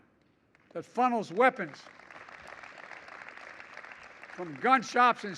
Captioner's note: applause